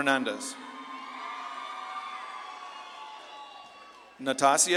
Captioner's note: audience claps and cheers